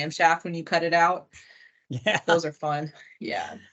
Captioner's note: chuckles